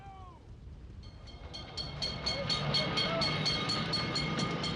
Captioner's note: bell ringing